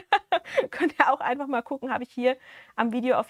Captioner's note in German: Gelächter